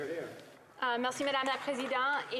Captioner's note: some Applause